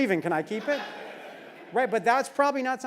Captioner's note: laugh